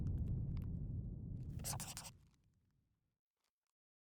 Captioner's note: scribbling